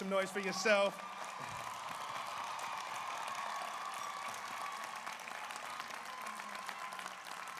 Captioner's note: audience applauds; audience cheers